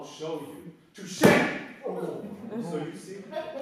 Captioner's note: balloon pops